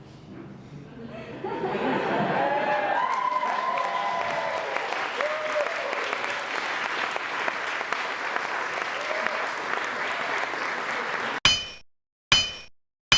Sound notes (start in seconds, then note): 2.4 applause